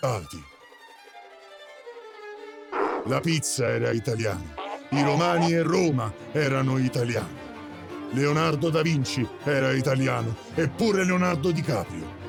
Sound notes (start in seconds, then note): 0.1 classical music continues; 2.7 Donkey's bray